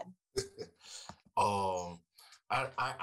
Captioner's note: laughing